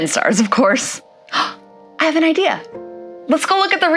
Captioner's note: gasps softly